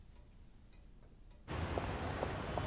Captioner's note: none